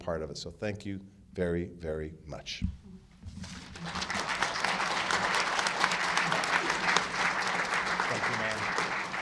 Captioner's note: applause